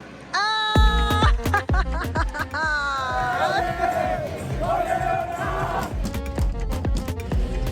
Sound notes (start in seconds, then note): 1.0 laughter